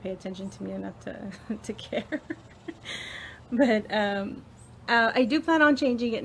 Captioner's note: laughs